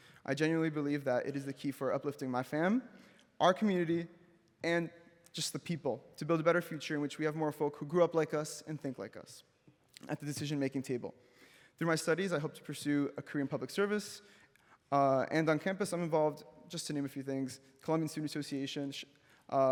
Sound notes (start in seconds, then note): none